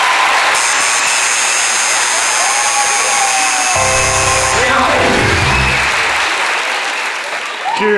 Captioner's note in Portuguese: campainha e aplausos